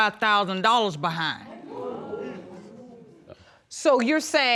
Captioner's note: audience gasping